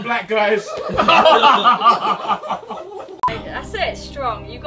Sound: laughing

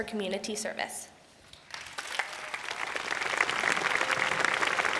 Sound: applause

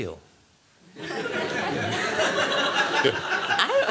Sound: laughter

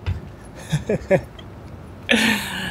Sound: chuckles

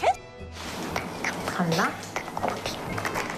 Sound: whispering

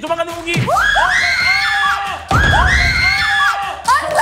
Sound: screaming

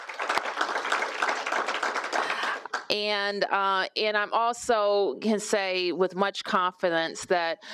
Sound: applause

